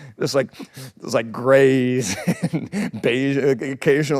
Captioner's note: laughs